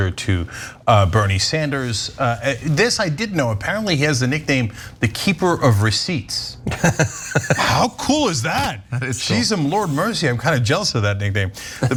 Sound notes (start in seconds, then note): 6.7 laugh